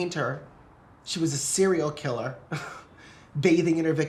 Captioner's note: laughs